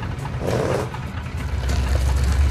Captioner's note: revving of engine